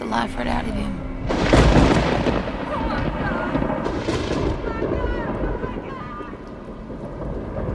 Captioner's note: thunder & lightning